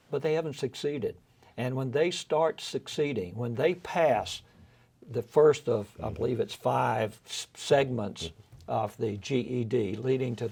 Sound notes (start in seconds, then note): none